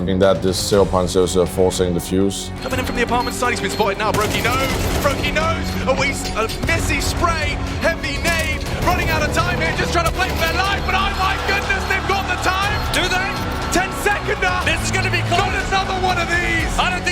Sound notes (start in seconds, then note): 4.1 gun firing